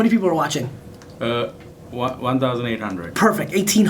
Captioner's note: voiceover